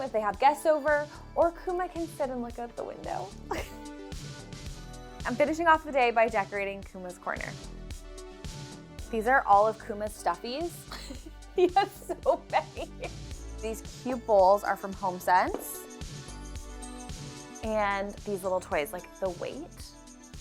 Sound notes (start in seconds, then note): 3.5 chuckles; 4.6 upbeat music; 11.6 chuckles; 15.8 upbeat music